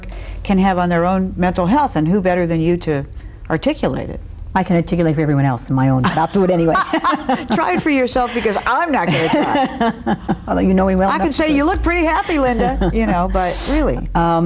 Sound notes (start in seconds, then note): 6.0 laugh